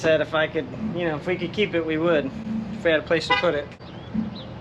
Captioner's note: honk